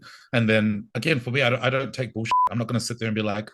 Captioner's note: beep